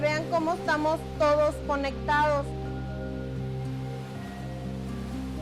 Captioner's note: waves crashing